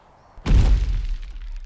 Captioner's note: smashing thud